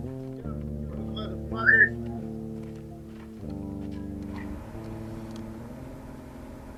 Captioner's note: whistling drowns out speaker